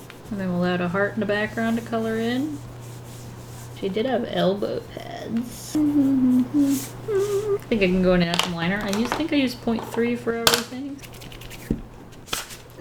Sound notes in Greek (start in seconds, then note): 5.6 Μουρμουρητό